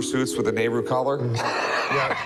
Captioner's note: laughs